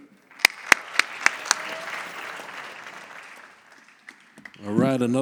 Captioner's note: audience applauds